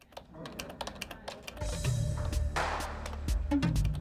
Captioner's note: computer keys click